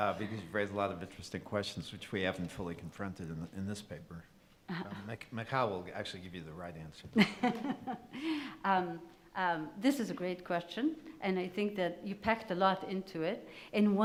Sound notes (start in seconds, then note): 7.2 laughs